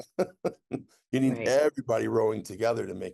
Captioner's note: laughter